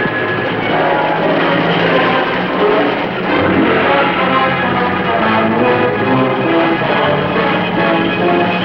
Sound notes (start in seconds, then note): 0.0 dramatic Music; 1.9 engines Running